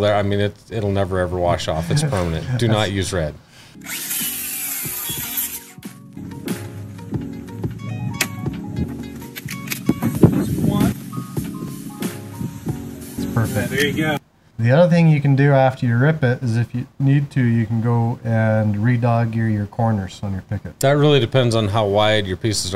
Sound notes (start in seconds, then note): 3.7 drill whirs; 5.3 soft music plays